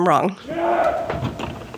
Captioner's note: groan